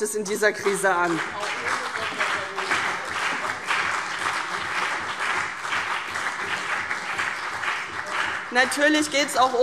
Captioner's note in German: Beifall CDU und BÜNDNIS 90/DIE GRÜNEN